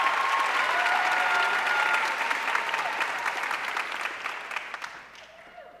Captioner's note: audience cheering and applauding